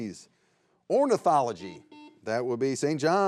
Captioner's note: buzzer beeps